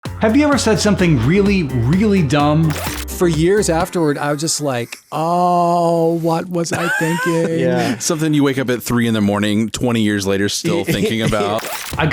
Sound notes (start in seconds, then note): 6.6 chuckling